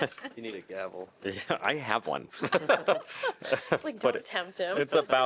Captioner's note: laughter; laughter